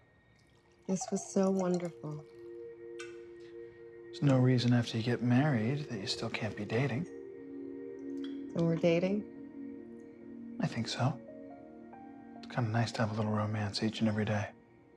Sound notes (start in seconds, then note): none